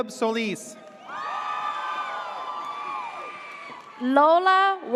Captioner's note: audience cheers